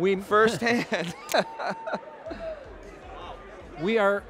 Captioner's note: laughing